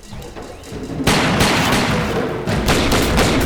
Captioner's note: gun fire